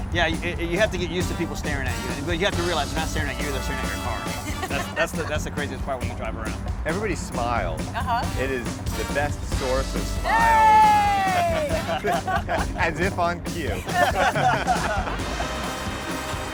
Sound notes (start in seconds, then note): 11.2 laughter